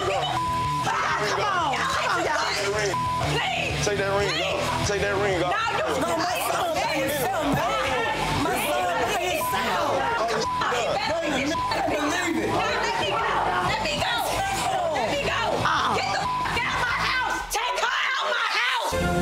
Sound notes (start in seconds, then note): 0.0 beep; 8.3 beep; 15.2 beep